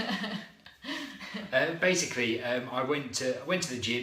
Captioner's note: laughter